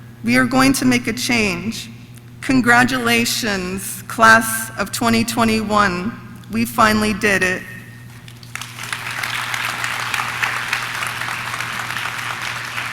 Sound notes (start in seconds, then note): 8.1 audience clapping